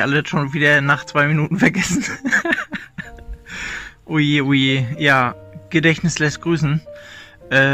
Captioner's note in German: lacht